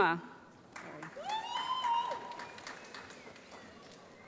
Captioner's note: applause